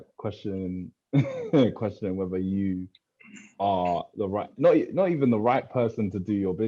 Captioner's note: laughs